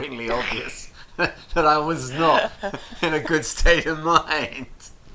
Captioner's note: chuckles